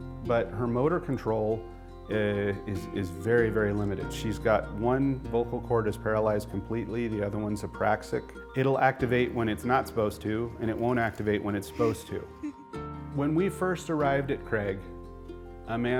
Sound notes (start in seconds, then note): 11.7 laughs